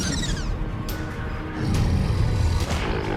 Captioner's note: growls